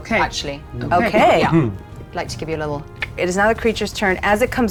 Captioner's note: clicks